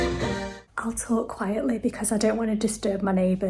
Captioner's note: applause